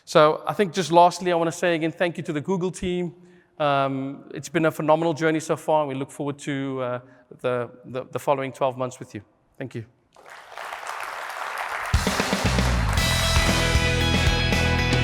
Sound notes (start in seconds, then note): 10.1 applause